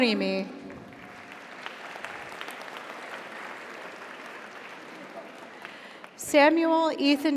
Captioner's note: audience applauds; audience cheers